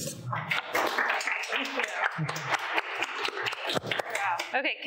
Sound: audience clapping

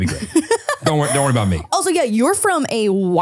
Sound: laughing

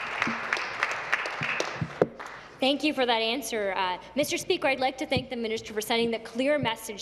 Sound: applause

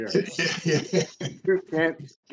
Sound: laughing

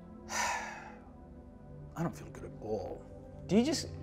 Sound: sighs

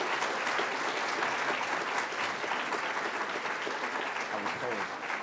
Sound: applause

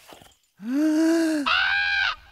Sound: deep breath; squawk of bird call

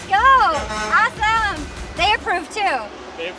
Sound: truck horn honks

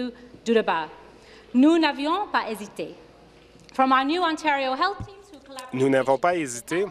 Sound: speaking French

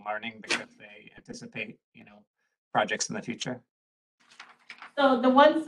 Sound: papers rustle

